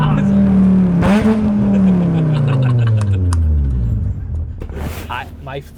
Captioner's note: car engine roaring; amused laughing